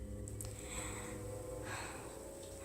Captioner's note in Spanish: Suspiros